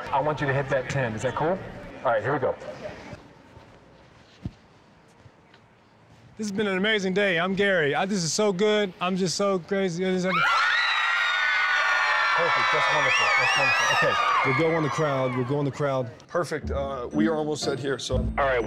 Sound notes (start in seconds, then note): 10.3 cheering